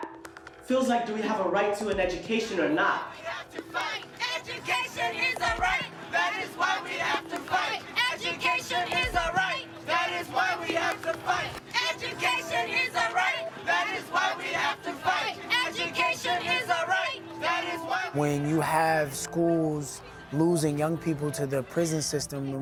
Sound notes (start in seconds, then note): 4.1 group chanting